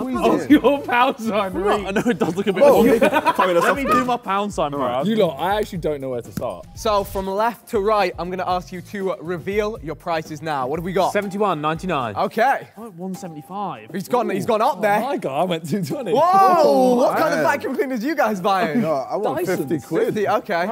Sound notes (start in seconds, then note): 3.8 Ethan laughs